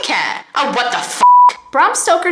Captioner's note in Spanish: bip